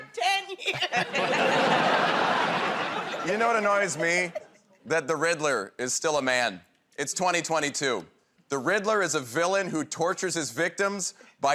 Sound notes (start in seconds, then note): 0.6 laughing